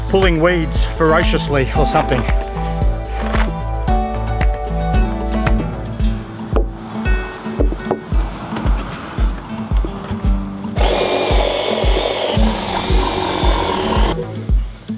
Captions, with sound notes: or pulling weeds voraciously or something. [upbeat music] [drilling]